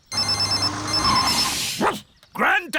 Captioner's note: phone ringing; beeping; barks